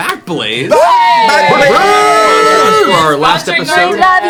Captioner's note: cheering